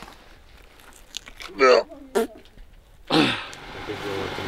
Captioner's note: grunting